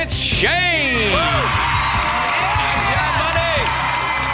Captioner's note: boys cheering